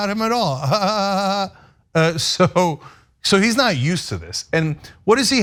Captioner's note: laugh